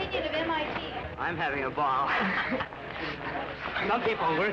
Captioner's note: laughing